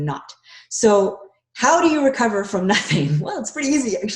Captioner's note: chuckles